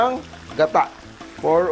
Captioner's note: sizzle